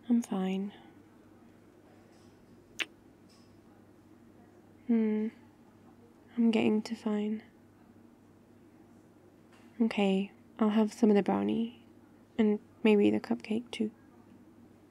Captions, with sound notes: I'm fine *kiss* hmm... I'm getting to fine OK, I'll have some of the brownie and maybe the cupcake too